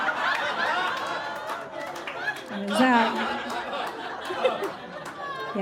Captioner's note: audience guffaws